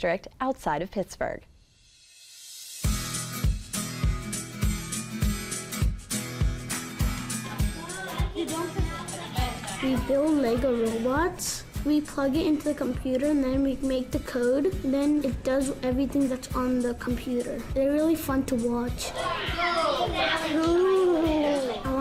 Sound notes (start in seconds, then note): 2.2 upbeat music; 7.9 kids talking